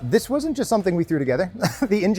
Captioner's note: laughs